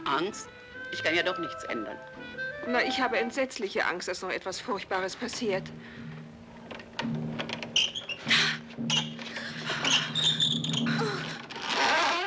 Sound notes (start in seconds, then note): 6.9 dramatic music; 8.2 gasps; 8.2 women gasping; 8.7 door handle squeaking